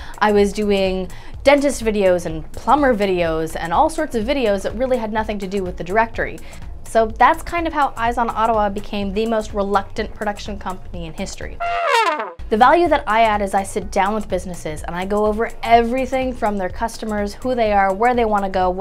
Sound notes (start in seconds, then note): 11.6 fail trumpeting